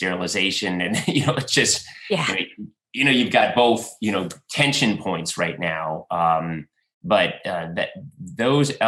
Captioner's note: laughs